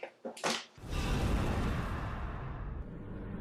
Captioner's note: whoosh